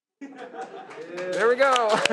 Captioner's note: audience laughs